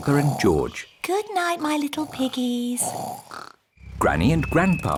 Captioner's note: both snoring